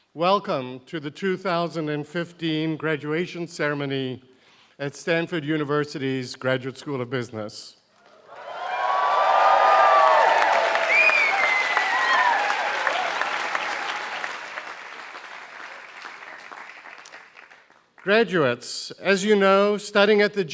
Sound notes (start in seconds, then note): 8.0 applause